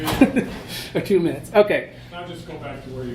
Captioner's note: laughing